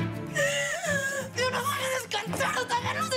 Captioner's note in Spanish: Sollozos